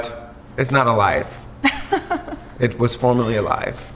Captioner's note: Chrissy laughs